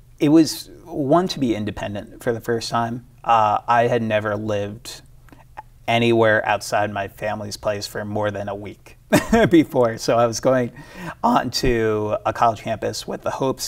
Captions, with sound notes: - It was a want to be independent for the first time. I had never lived anywhere outside my family's place for more than a week, (chuckles) before. So I was going onto a college campus with the hopes